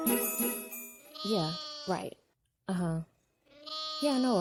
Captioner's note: sheep baas